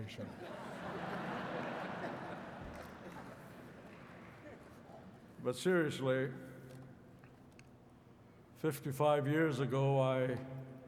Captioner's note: laughter